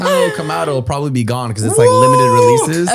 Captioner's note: laughs